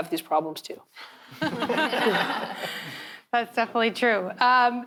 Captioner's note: all chuckles